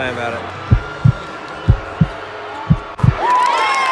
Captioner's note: heavy heartbeats; crowd cheers